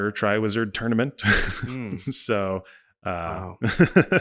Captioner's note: laughing